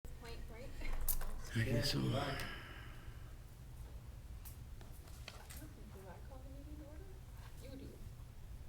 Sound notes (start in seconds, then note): 1.3 laughs